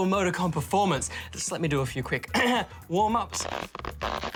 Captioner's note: clears throat